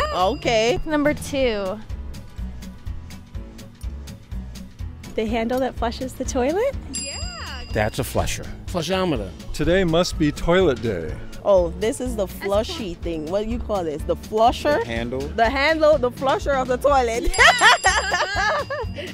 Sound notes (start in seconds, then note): 6.9 ding; 17.3 laughs